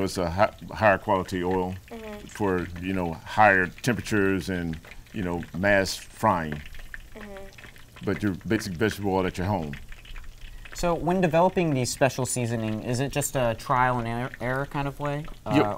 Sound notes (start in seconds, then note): none